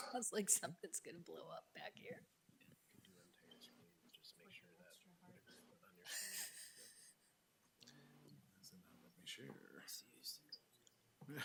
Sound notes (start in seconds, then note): 5.1 speaking faintly; 6.0 chuckling